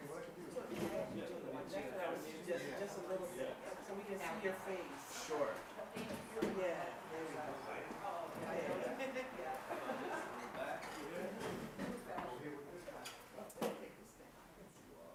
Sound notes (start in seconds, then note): 3.3 participants chattering